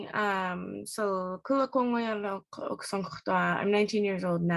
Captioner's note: speaks more Alutiiq language